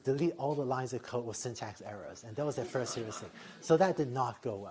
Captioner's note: laughter